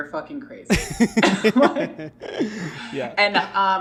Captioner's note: laughing